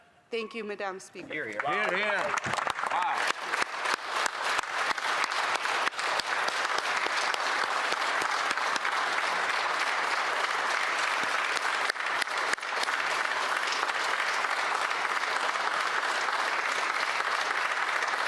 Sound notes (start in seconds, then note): 5.0 applause